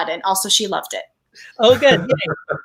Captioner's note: laughs